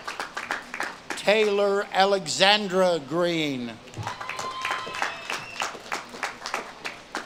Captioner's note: audience claps and cheers; audience claps and cheers